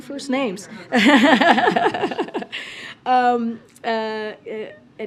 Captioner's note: laughter